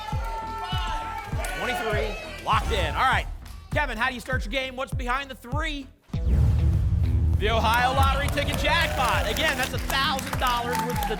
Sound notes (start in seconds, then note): 0.0 audience shouting numbers; 6.2 boom; 6.2 phaser sound